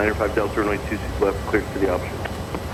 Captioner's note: talking on Radio